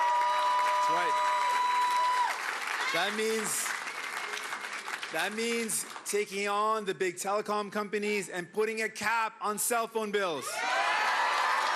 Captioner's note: cheering and Applause